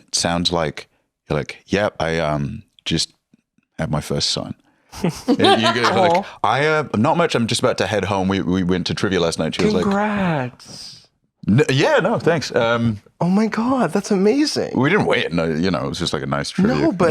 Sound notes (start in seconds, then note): 9.7 sweetly